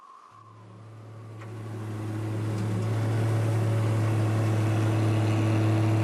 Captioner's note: wind whistles; engine rumbles